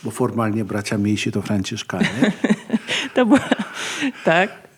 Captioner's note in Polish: śmiech